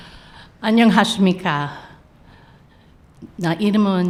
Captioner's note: speaking korean